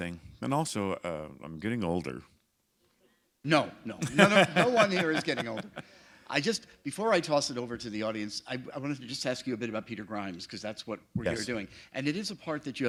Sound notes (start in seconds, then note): 4.0 laughter